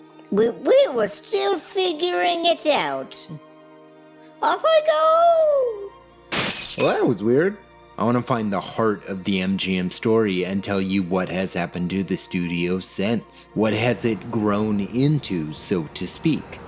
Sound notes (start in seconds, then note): 6.3 glass shatter